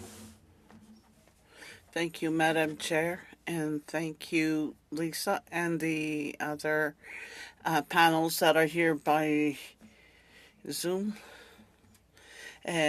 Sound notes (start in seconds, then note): 6.2 speaking French